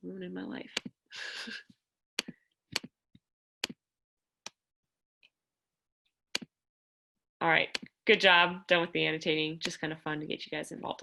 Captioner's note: laughter